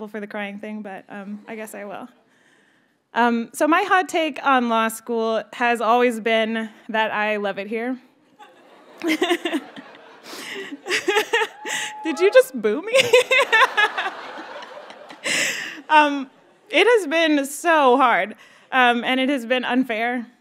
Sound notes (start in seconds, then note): 8.3 graduates laugh; 10.2 laughs; 15.4 students laugh